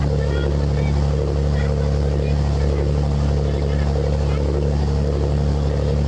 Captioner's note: children yell in foreign language